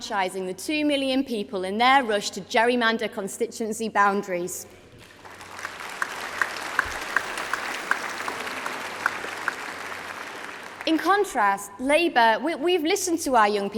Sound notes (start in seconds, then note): 10.4 applause